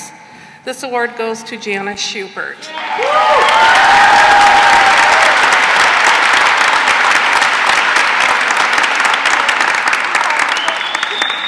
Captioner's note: cheering and applause